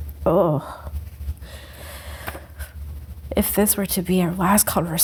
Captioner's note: groans